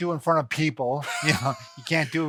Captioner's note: both laughs